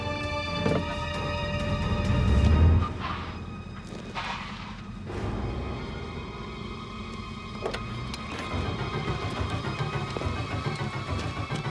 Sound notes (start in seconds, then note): 1.9 tires squealing